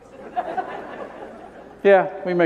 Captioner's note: laughter